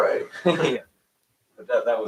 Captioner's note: laughs